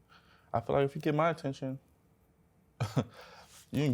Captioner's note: chuckles